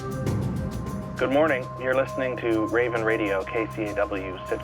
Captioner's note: radio Announcer